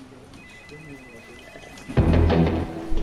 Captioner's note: phone rings; electronic music